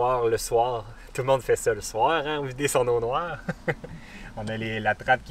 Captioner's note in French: Rire